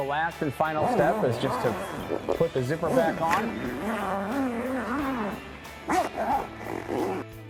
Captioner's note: zipper sound